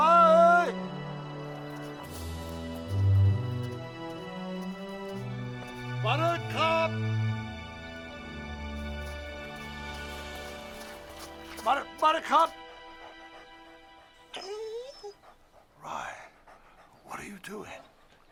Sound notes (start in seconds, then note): 14.2 dog whines; 14.5 panting